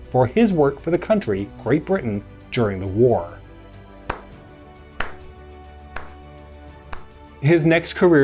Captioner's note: slow Clapping